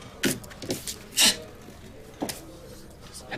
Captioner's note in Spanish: resopla con desprecio